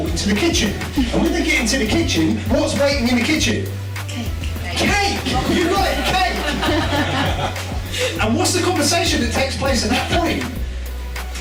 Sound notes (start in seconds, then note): 5.4 laughter